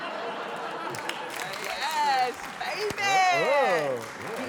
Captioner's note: laughter; applause